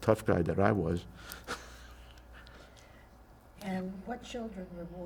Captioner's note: laughing